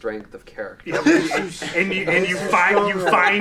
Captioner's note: all laughing